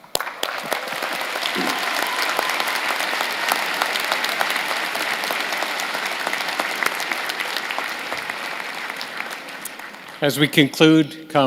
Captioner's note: cheers and applause